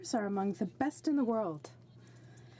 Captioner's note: speaking in french